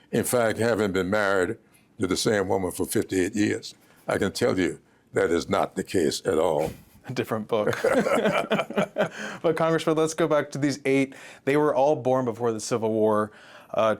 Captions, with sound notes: In fact, having been married to the same woman for 58 years, I can tell you that is not the case at all. A different book. (laughter) But, Congressman, let's go back to these eight. They were all born before the Civil War.